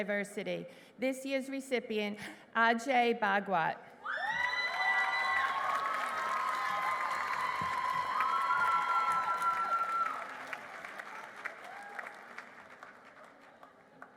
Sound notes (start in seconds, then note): 4.4 applause